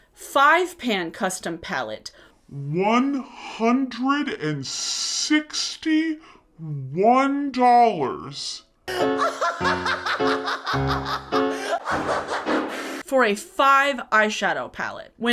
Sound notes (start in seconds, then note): 8.9 man laughs hysterically